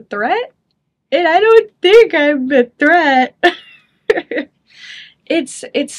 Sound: chuckles

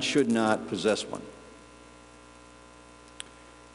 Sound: pause

